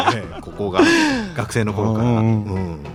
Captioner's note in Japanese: 笑い